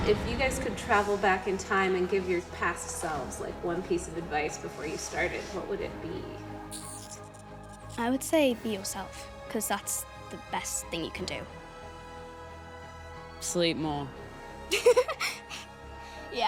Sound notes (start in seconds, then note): 6.8 sucks teeth; 14.7 laughs